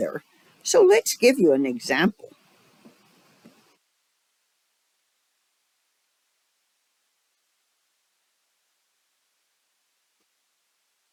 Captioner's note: 12-second silence